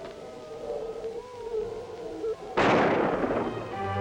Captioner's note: gunshot